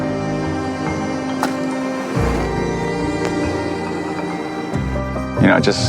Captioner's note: match strikes